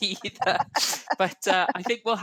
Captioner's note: laughing